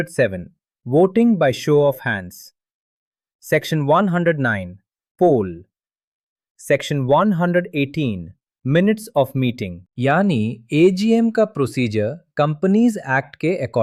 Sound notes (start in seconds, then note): 5.9 pause